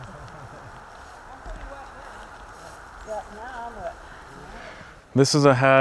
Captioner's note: group talking at a distance